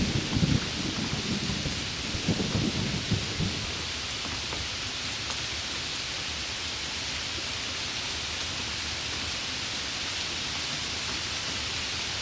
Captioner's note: rain and thunder; rain